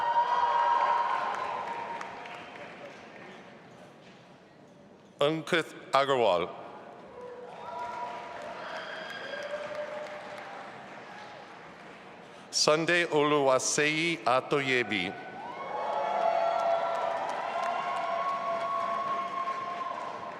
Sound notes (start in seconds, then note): 0.0 audience applauding and cheering; 7.5 audience applauding; 15.3 audience applauding and cheering